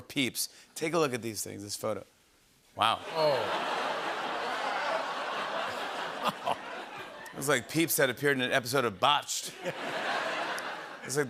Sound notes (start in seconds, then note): 3.0 laughter; 9.4 laughter